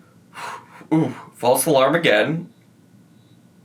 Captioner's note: sighs